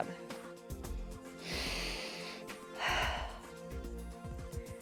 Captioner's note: inhales and exhales